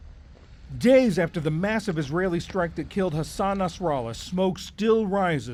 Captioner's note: voice-over